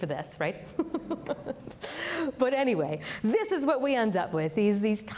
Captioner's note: chuckles